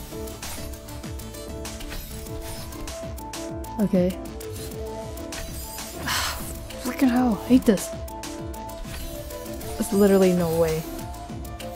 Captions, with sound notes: Okay. [sigh] Fricking hell! Hate this! There’s literally no way.